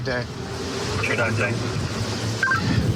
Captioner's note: radio communication